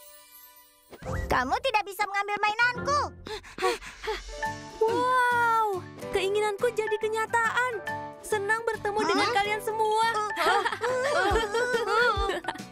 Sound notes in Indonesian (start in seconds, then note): 3.5 Pinkfong, Hogi terengah; 10.3 tertawa